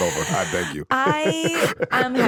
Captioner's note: laughs